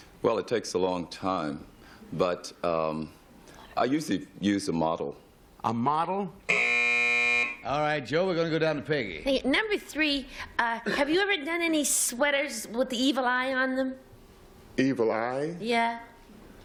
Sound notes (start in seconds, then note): 6.5 buzz